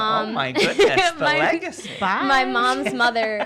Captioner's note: laughing